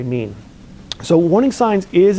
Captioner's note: lip smacks